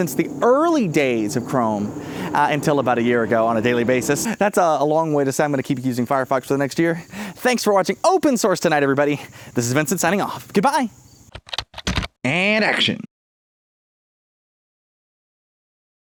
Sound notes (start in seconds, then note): 11.3 typing